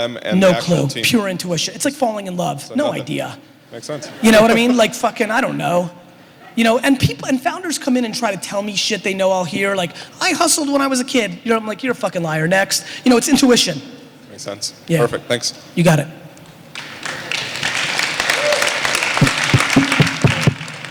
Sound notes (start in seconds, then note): 16.7 applause